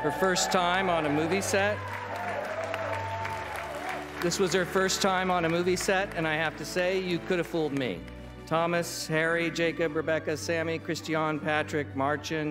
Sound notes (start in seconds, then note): 1.9 applause